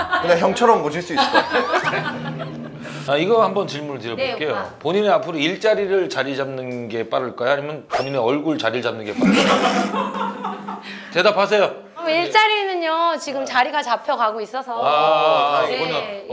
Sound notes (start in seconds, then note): 1.2 hahahaha; 9.1 bwahahaha